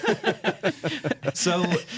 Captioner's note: laughter